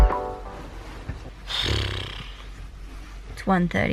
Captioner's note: groan